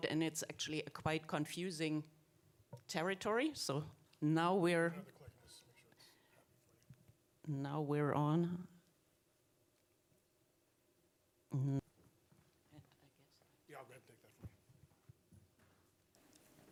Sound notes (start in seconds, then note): 5.1 staff member speaking faintly